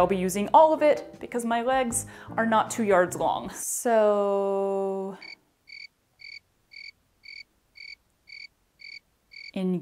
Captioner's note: crickets